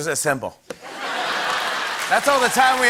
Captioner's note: laughter